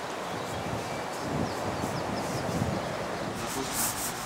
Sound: birds chirping

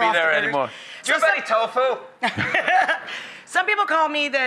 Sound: laughter

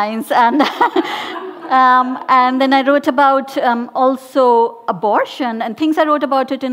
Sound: laughing

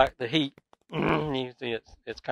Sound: clears throat

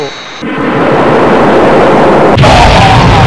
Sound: missiles firing

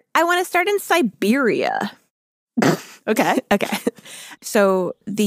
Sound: laughs

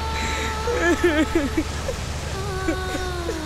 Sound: sobbing

